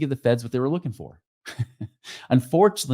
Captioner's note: chuckles